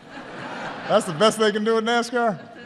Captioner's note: laughter